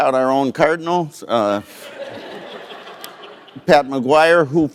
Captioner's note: laughter